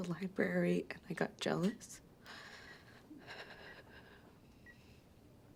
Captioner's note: sighs